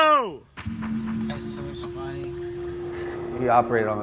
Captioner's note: mumbles